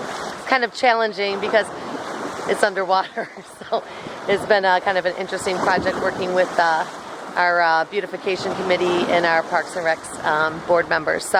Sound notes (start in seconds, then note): 3.0 laughing